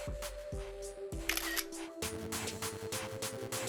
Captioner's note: camera clicks; upbeat music continues